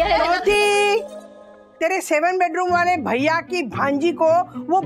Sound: none

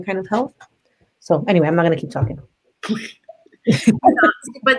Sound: laughs

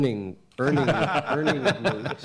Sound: laughter

